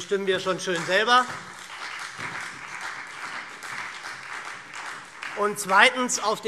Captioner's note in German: Beifall SPD